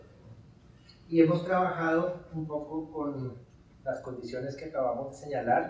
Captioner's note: speaking in Spanish